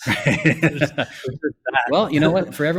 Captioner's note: laughs